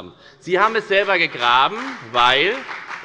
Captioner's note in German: Beifall bei der FDP und bei Abgeordneten der SPD